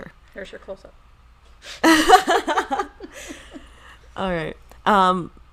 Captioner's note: laughing